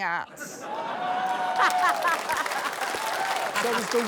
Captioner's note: laughter